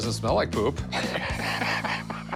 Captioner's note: laughs